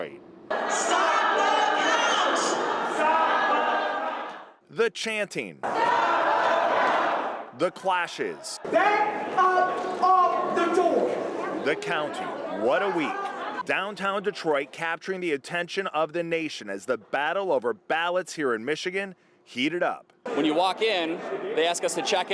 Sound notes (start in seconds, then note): 11.6 crowd chanting